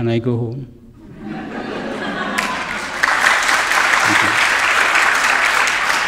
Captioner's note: audience members laugh and clap